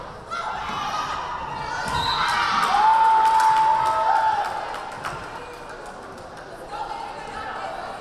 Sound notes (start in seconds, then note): 1.7 crowd cheering; 1.9 whistle blaring